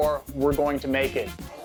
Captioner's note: chatter